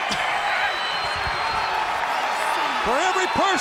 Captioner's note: audience cheers